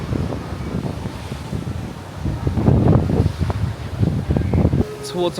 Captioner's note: water surges; wind blows across mic